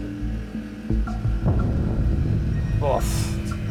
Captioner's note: beeping